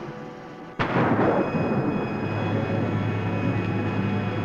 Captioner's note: thunder roaring